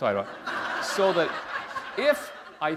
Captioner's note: laughter